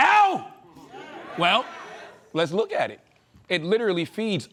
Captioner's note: audience agreeing